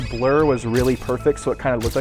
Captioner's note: flash snapping